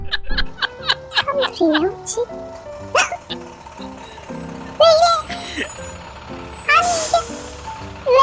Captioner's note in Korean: 웃음소리